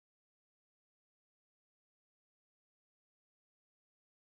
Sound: none

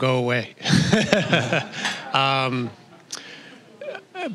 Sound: all laughing

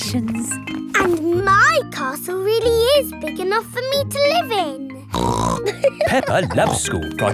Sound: snorts and laughs

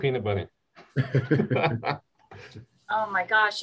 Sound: laughter

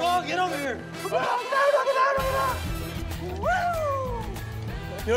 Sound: cheering and laughing

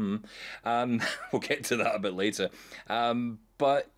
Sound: chuckling

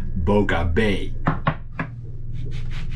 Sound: pestle thumping; knife sawing

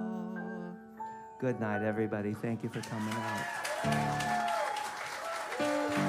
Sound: applause

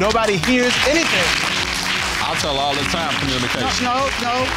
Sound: audience applauding

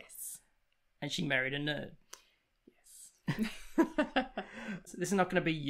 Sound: laughs

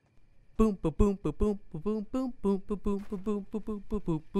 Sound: humming

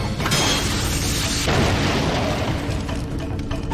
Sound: explosion

